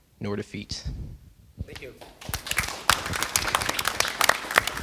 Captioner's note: applause